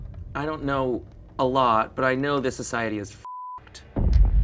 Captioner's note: beep; thump resounds